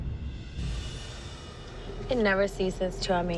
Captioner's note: swish; distant sirens sounding